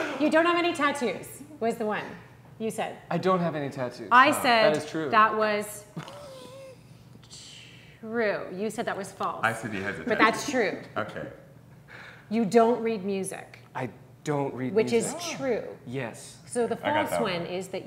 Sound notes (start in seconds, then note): 10.9 chuckling